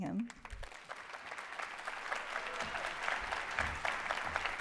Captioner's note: cheers and applause